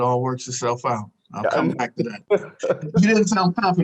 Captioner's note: laughs